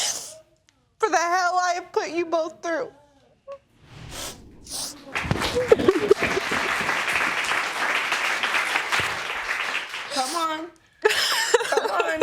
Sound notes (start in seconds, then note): 5.6 both sobbing